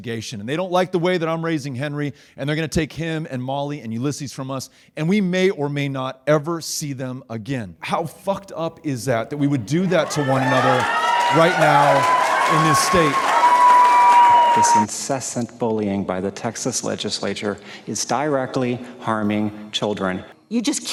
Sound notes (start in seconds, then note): 13.4 audience cheering